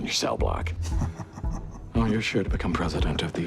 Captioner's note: Bobby chuckles